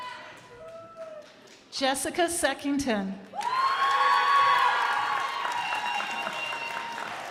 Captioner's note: crowd applauding